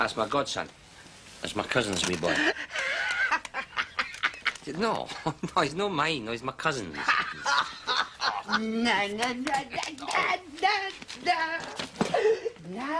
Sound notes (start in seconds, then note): 2.2 laughing; 9.3 SINGS <i> </i>THEME